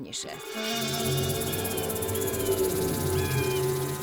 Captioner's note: vultures screaming